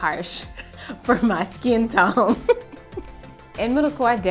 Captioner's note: laughs